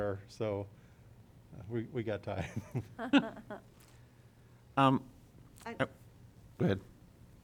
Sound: laughter

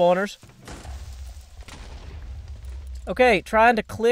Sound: explosions

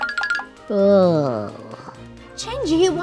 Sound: groans

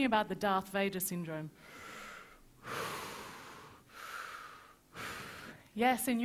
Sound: breaths in and out audibly

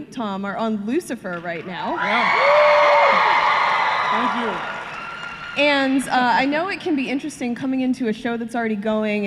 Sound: cheering

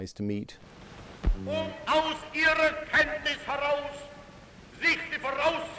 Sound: Hitler shouting in German

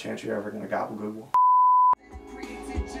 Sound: beeping; electronic music playing

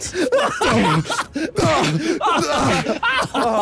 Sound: punching sounds

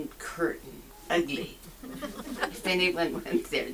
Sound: audience laughs

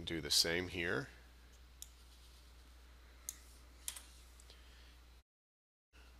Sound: sound of mouse clicking

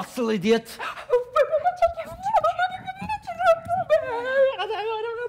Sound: Sharik loudly whimpering

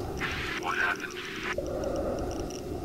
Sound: over Radio

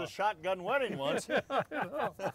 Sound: laughing

